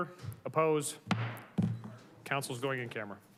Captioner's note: gavel thuds